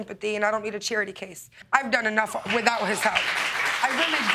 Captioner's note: audience clapping